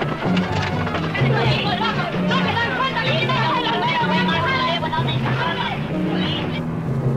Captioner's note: men speaking in Spanish